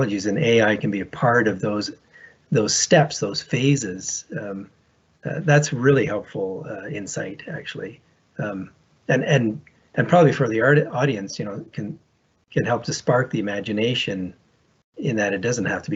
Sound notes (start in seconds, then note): none